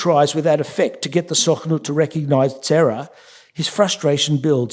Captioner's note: yiddish